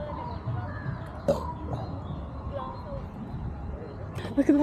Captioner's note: burps again unapologetically